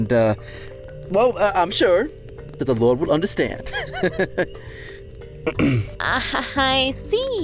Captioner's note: laughs, then clears throat